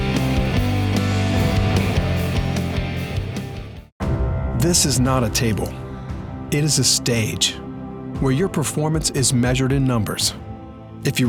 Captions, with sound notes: - [Voiceover] This is not a table. It is a stage. Where your performance is measured in numbers.